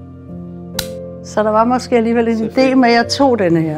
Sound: champagne popping

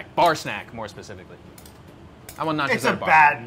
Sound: none

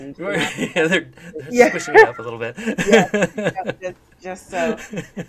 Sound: laughs

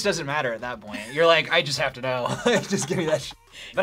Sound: laughs

